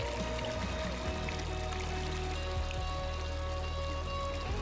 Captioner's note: motor rumbling